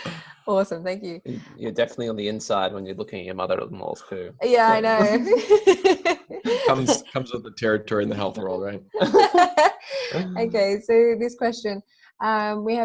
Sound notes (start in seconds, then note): 0.0 laughing; 4.6 laughs